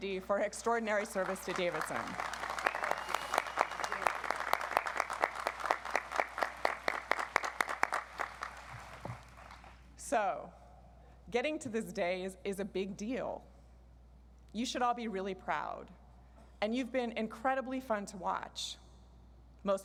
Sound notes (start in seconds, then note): 0.9 audience applauds